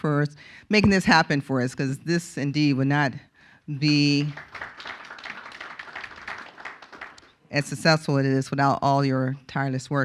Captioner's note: applause